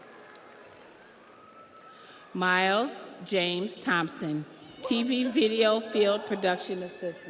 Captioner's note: audience applauds; audience cheers